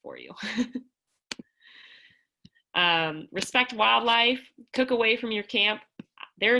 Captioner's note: laughter